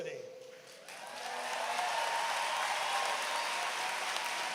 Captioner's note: applause